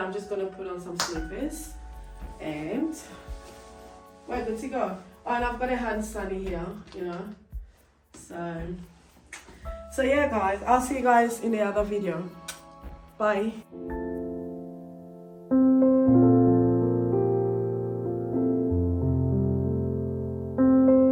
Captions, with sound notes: I'm just going to put on some slippers and we are ready to go. Oh and I've got a hand sanny here So, so yeah guys I'll see you guys in another video. (smooches) Bye. (gentle piano music)